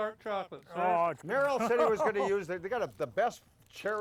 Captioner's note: men chuckling